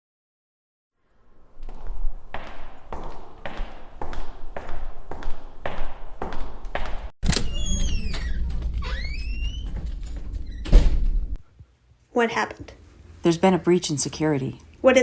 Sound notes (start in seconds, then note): 1.4 footsteps; 7.2 door opening and closing